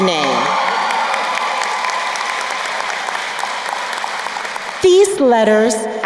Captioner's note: crowd cheering and applauding